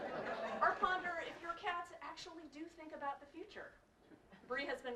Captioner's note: laugh